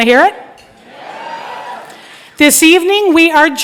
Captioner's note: crowd